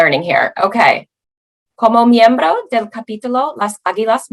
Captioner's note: speaking Spanish